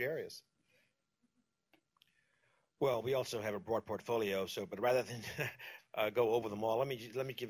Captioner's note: laughs